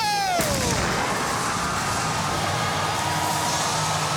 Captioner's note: cheers and applause